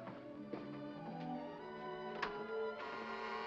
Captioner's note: door opens; door bell buzzes; ominous sentimental music